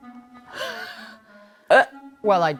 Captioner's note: chuckling